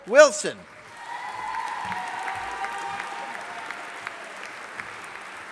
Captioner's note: audience applauding